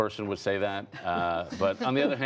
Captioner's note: laughter